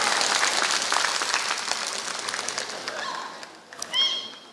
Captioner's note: applause